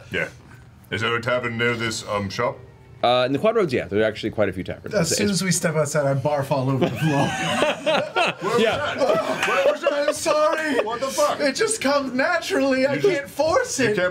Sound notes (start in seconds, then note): 6.8 all laugh